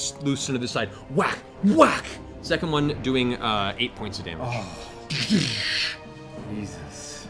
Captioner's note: whack, whack